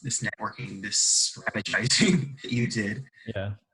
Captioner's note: laughs